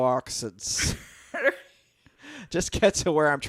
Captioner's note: laughs